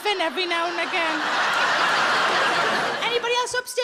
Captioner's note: audience laughs